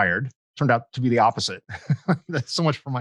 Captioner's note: laughs